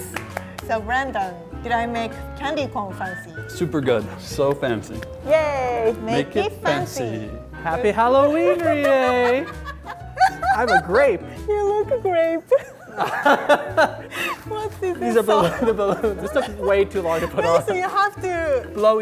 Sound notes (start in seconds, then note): 0.0 clapping; 8.2 laughing; 12.8 laughing